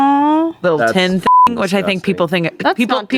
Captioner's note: beep